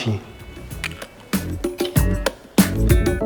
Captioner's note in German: Popcorn knackt